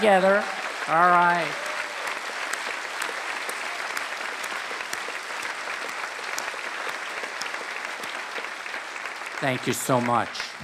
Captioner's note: applause